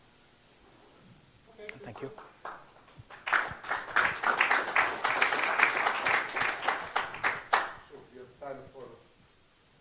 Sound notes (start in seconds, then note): 1.8 applause